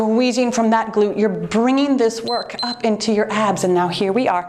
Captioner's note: timer beeps